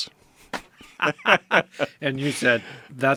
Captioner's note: laugh